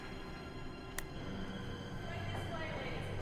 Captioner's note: gun cocks